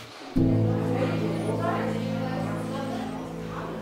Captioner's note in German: Stimmengewirr, nachdenkliche Musik